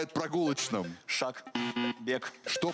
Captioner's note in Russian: пи-пи